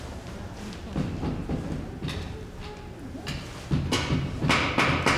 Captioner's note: tools banging